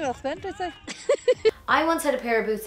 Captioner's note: laughs